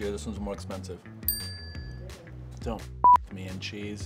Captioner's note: dinging